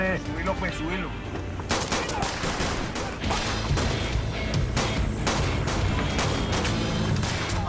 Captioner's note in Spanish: Disparos